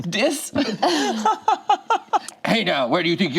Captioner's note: group laughs